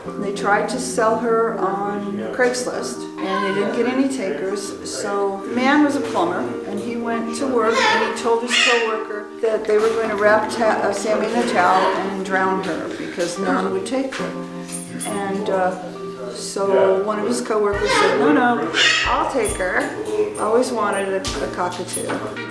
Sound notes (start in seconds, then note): 12.9 gasps sadly